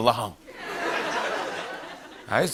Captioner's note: laughter